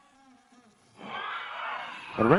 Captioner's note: audience shouts